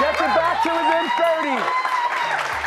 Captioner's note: cheers and applause